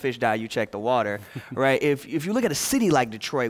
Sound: laughter

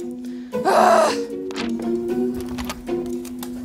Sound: bouncy piano music; frustrated sighs; bouncy piano music

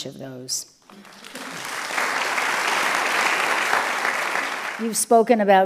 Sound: audience applauds

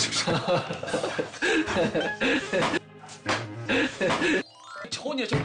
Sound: laughter

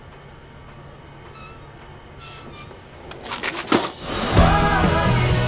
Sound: metal creaking; upbeat music

